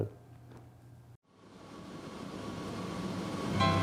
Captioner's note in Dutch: vliegtuigmotor draait; vrolijke instrumentale muziek